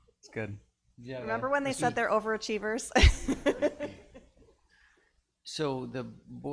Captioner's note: laughs